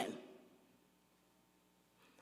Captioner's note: none